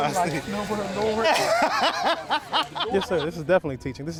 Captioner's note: laughing